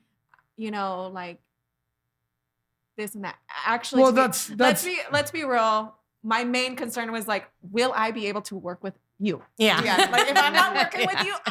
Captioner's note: laughing